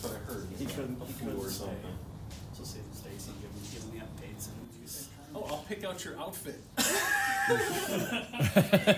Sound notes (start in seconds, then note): 6.8 laughter